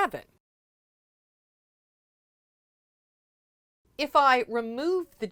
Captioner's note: no Sound Present